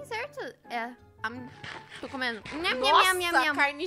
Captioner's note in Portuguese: som de comida